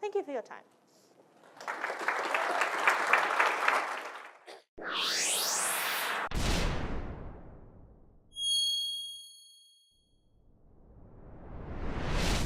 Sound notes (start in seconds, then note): 1.4 audience applause; 4.8 whooshing; 6.3 bang; 10.8 whooshing